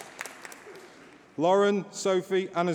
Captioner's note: applause